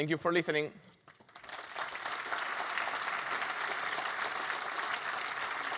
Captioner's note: applause